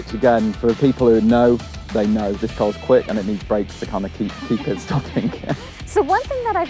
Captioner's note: laughs